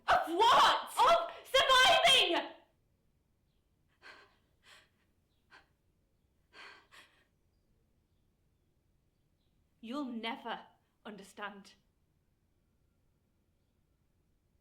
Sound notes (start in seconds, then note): 4.1 Ella breathing heavily